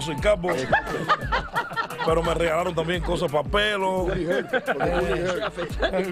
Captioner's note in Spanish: risas